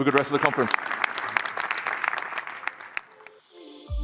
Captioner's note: applause